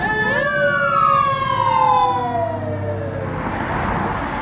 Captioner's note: sirens